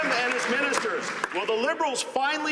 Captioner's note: some Applause